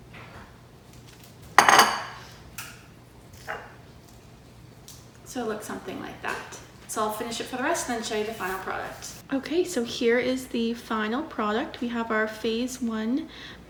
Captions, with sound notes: [glass bowl clatters] So it looks something like that. So I’ll finish it for the rest then show you the final product. Okay so here is the final product, we have our Phase 1,